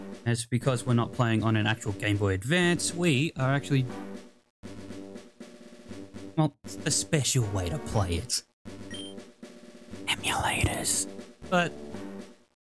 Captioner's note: whispering